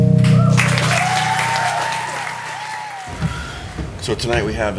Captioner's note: audience cheering and clapping